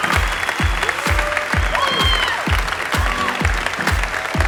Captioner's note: audience applauding